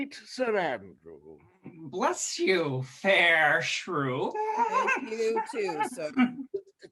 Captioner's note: giggles